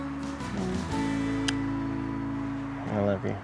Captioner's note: smooch